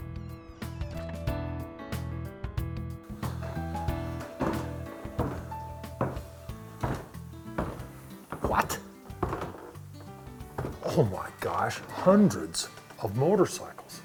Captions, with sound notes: (door closing) (foot steps) - What! Oh my gosh. Hundreds of motorcycles.